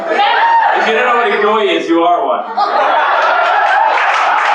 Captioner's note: laughter; applause